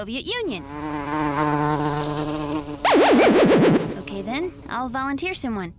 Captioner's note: buzzing